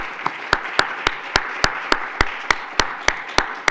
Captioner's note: applauding